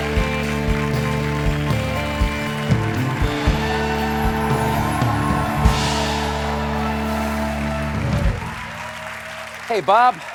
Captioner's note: cheers and applause